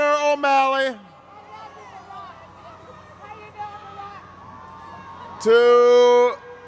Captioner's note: crowd noise